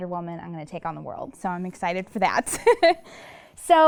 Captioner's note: laughs